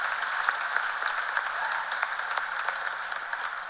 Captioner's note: cheers and applause